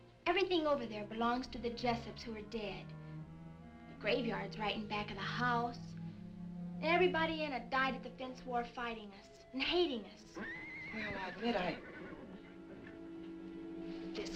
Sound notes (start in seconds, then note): 10.3 horse neighing